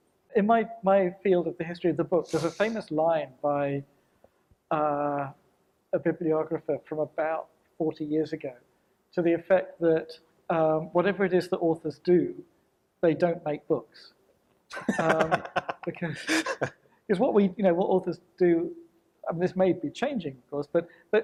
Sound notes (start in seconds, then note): 14.7 panel laughs